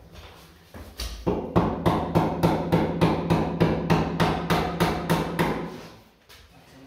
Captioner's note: hammering